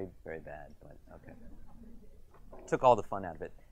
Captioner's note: audience chuckles